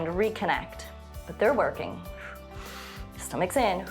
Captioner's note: short exhale